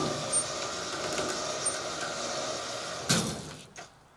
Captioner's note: motor whirring